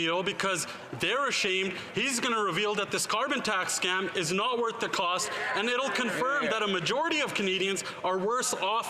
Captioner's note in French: voix de l'interprète